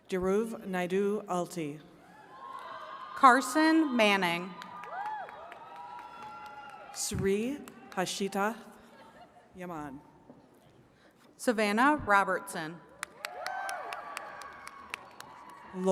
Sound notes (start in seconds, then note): 2.2 attendees cheering and clapping; 4.5 attendees cheering; 13.0 attendees cheering and clapping